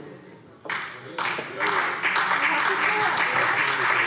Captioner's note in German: Beifall SPD und Freie Demokraten